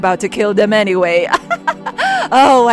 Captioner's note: villainess laugh